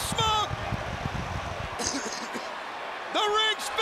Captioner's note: crowd cheering